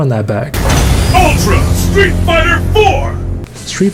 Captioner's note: bass booming; metal grinding